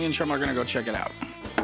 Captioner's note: knocks